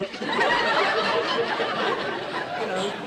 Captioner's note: blow sound; crowd laughs